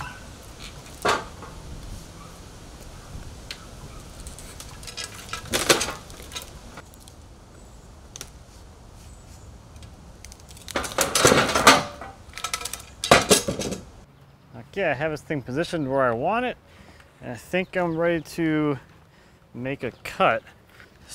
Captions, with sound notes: (metal clanking) (tree smashing metal) Okay I have this thing positioned where I want it and I think I'm ready to make a cut.